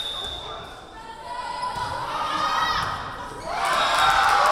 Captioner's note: whistle blowing